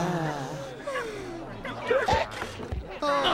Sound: all sighing; hiccup

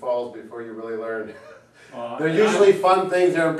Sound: chuckles

